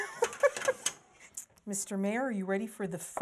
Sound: laughter

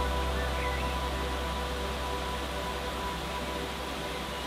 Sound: birds chirping

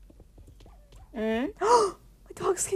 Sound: gasps

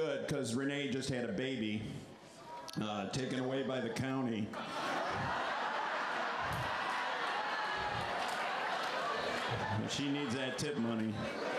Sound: laughter

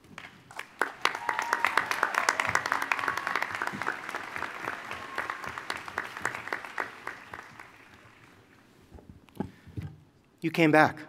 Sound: applause

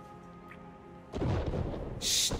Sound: cannons firing

